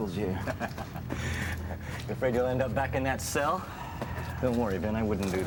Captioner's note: laughing